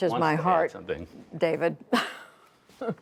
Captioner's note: laughter